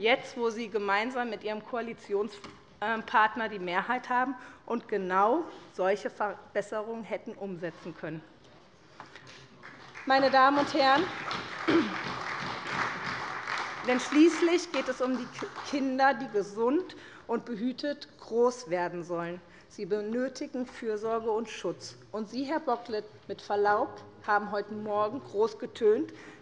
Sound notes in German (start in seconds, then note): 9.3 Beifall bei der SPD